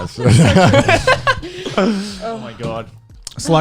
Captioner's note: laughing